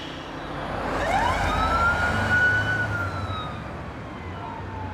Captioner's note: sirens wailing